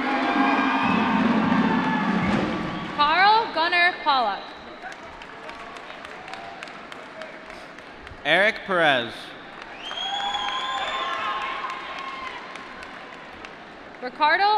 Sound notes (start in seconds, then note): 0.0 drumroll; 2.5 applause; 5.5 applause; 10.5 applause